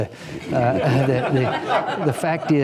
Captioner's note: laughter